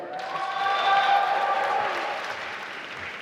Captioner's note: applause